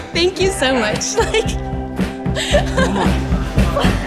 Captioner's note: laughs